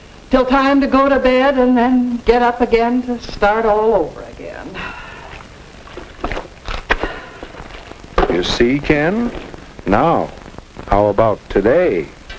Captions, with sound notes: until time to go to bed and then get up again to start all over again. *sighing* You see Ken? Now how about today?